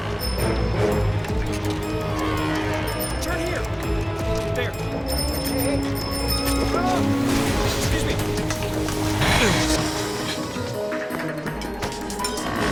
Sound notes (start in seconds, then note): 5.0 bicycle bell ringing